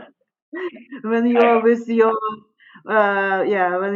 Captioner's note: laughing